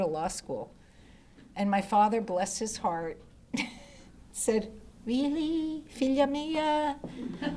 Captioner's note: laughs